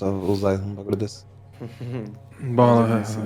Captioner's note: giggle